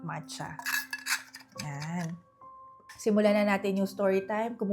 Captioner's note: glass sound